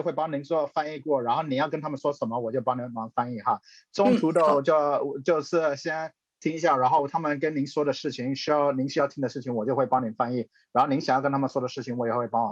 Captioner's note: translator speaking a language other than english